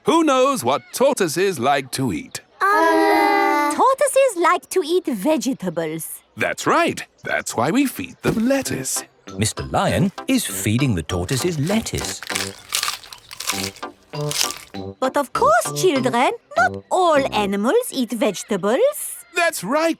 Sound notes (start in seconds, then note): 13.0 munching